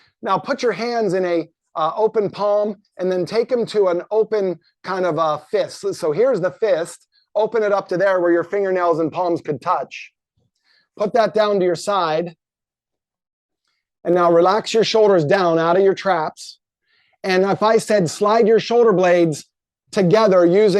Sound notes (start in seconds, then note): none